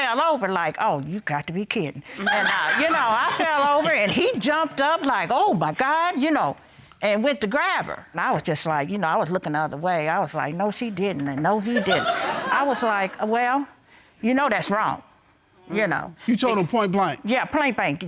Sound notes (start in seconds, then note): 2.1 audience laughing